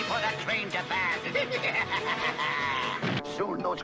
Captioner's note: evil laugh again